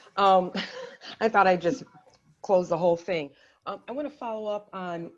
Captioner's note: chuckles